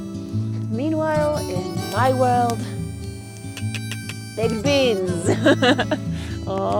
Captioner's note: laughs